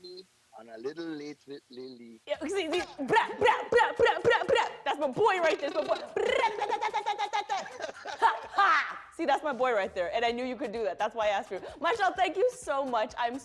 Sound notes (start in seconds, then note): 5.5 trills tongue; 9.0 speaking normally